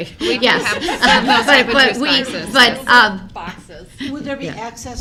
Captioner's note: board members laugh